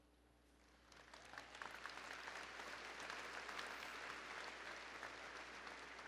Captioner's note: applause